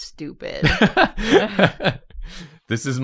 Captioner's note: laughs